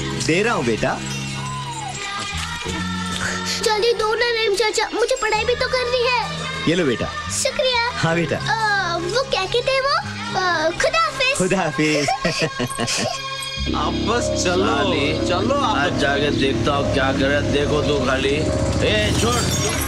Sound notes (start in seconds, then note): 11.8 Laughs